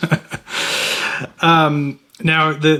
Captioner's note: both laughing